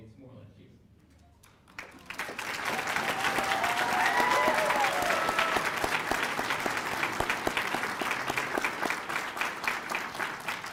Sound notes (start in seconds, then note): 4.8 cheers and applause